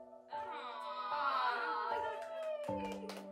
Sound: claps

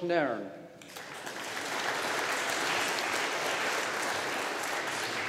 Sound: audience applauding

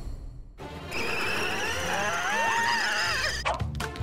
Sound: groaning

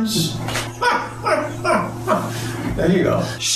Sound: Caitlyn laughs

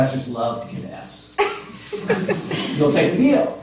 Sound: laughter

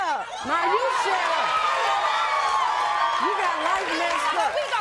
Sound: crowd cheering

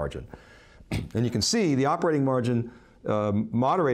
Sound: clears throat

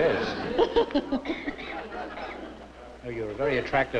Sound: laughter

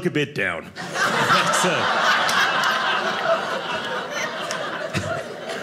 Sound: audience laughing

